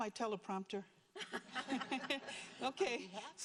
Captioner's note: group laughing